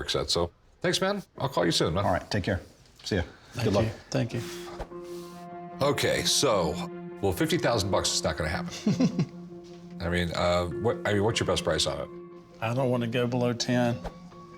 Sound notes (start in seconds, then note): 4.7 sighs; 8.6 laughs